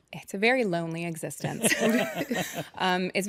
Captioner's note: laughter